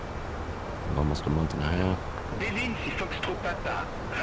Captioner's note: radio chatter